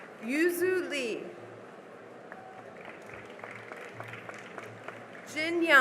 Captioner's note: cheering and applause